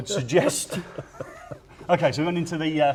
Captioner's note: laughing